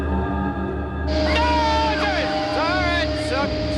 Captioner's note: yelling